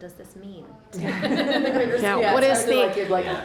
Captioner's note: laughter